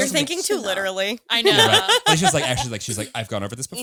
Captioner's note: laughs